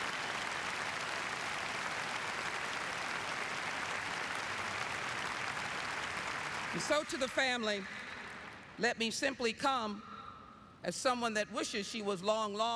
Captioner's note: apapplplauausese